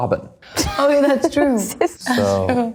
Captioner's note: Natalia chuckles